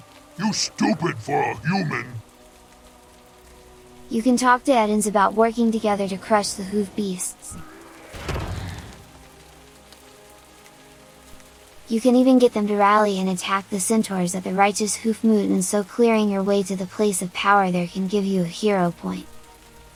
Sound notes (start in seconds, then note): 7.6 thud